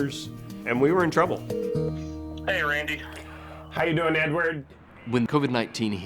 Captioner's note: phone ringing